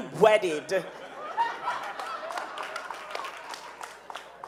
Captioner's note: audience laughing